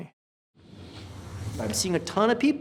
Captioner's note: whooshing